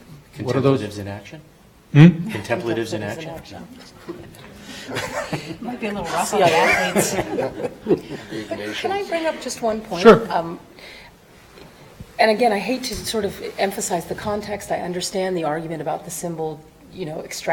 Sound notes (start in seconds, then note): 4.0 audience laughing